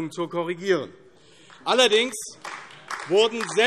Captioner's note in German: Beifall AfD